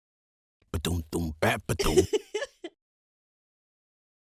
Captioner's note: happy giggle